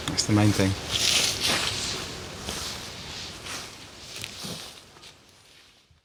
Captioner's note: footsteps